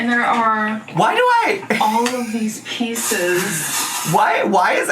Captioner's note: laughs